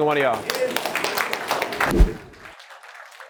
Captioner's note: applause